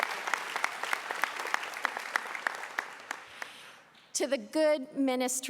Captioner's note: applause